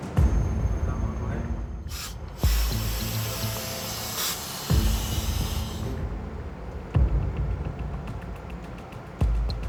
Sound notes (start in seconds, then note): 0.0 dramatic music; 1.8 hissing air